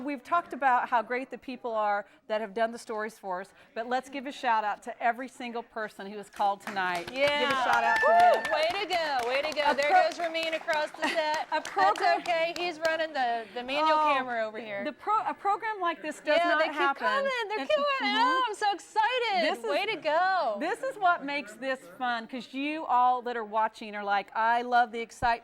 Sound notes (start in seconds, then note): 10.0 �cheering and applause�